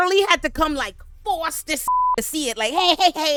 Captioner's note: beep